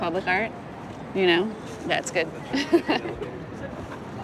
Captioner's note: laughs